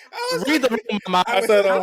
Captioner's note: laughing